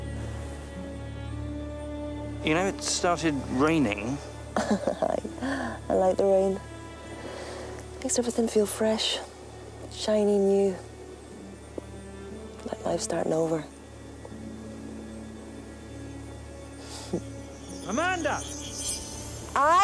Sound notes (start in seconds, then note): 4.5 laughs